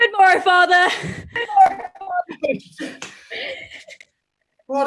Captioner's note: echo